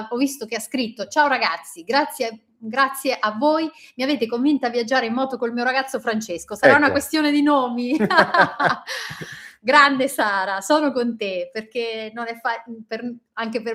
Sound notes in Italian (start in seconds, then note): 7.8 risate